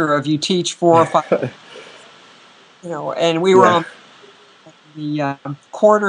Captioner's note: laughter